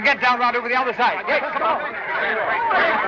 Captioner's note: commotion